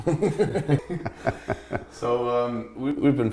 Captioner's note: laugh